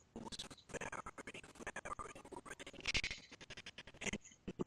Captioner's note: audio skipping